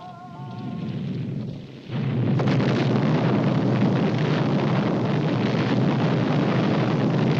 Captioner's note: low rumbling blasts